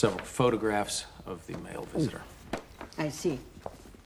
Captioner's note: gulps